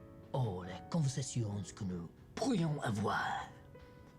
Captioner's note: speaks French